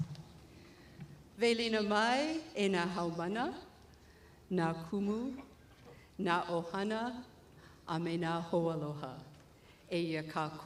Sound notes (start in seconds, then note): 0.8 greeting audience in Hawaiian